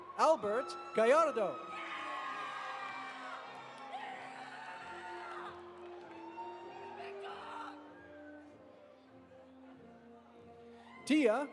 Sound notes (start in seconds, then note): 2.4 audience applauding; 2.4 audience cheering